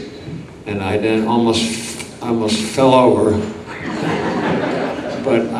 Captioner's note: audience laughs